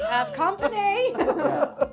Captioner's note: laughing